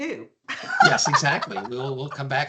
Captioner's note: laughing